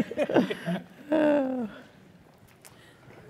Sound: laugh

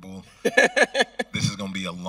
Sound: host laughing

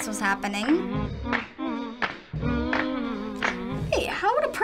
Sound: humming

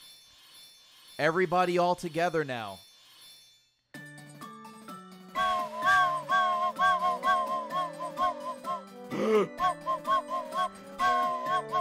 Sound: blows whistle

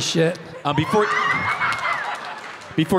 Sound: audience laughing hysterically

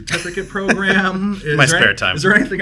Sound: laughs

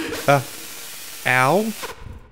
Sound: static hissing

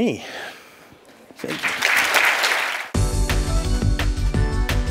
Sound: applause

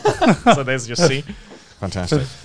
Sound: all chuckling

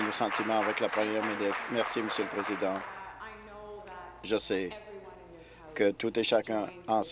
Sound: applause

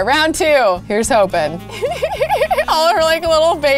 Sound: laughing

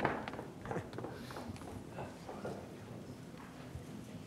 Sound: quick footsteps

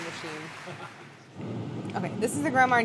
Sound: laughing

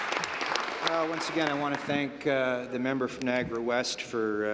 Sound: applause

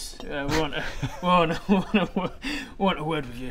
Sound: laughs

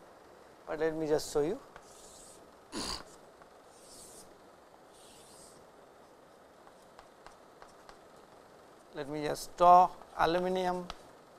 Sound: vocalized noise

